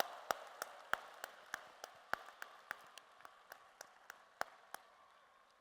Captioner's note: applause